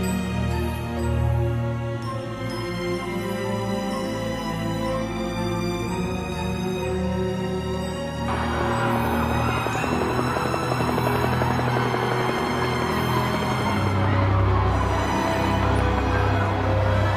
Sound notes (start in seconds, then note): 0.1 gentle haunting music; 10.2 helicopters whir